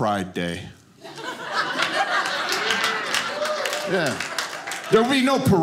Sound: audience laughing

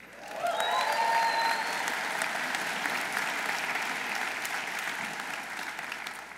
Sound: audience applauding; audience cheering

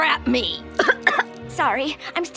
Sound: coughing

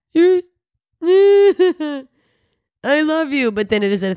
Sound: crying

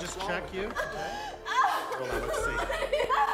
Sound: woman screaming

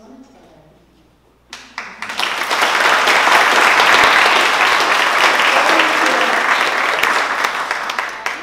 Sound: applause

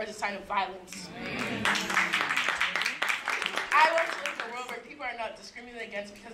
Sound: applause

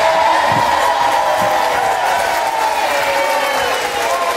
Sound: audience cheers

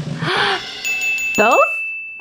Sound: bell dings

